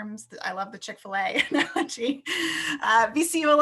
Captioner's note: laughs